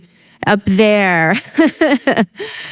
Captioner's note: laughs